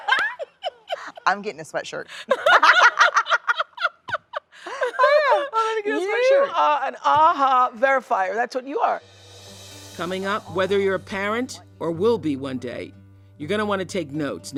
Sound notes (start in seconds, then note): 0.0 laughs; 2.2 both laugh